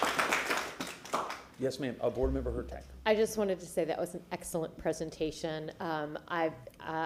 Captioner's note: applause